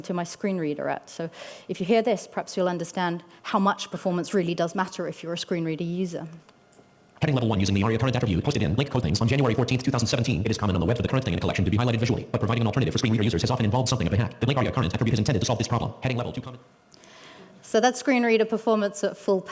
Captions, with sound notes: my screen reader at. Perhaps you will understand how much performance really does matter if you're a screen reader user. [Fast speech] So there screen reader performance at full